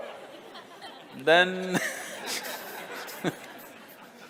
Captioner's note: Smích